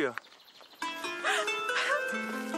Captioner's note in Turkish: Ağlıyor